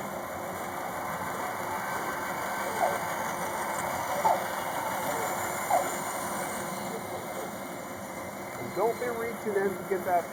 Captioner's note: band saw cutting